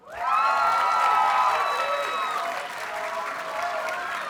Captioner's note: audience cheers and applauds